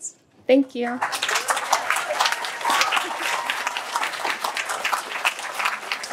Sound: applause

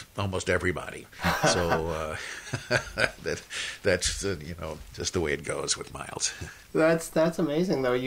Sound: laughs

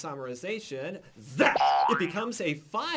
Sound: boing!

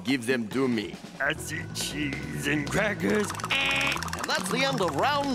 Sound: imitating buzzer

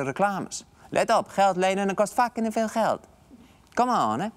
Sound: Italian accent

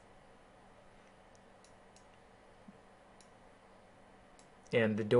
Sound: keyboarding

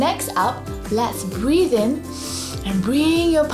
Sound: breathes in deeply

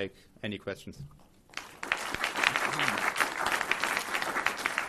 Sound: audience applause

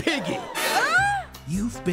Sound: gasps

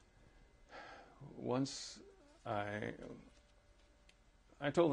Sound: sighs

